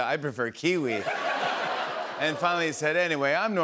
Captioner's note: laughter